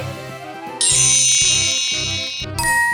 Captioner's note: futuristic zapping; magical ting